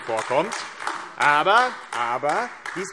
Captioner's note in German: Beifall AfD